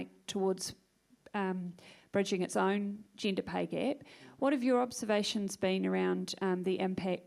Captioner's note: none